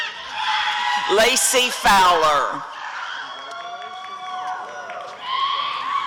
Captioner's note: applause and cheering